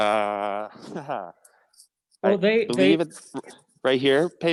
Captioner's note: chatter